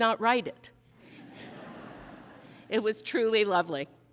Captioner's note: audience laughing